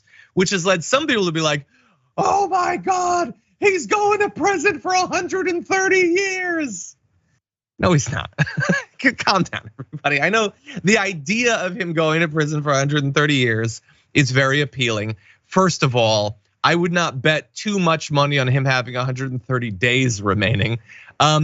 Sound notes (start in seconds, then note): 7.8 laugh